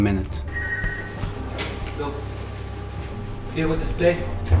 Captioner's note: phone ringing